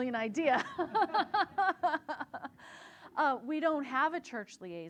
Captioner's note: laughing loudly